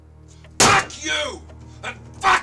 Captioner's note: slamming